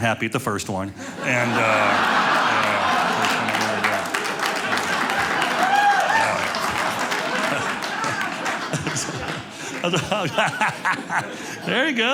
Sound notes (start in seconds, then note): 1.6 audience laughing; 5.6 audience clapping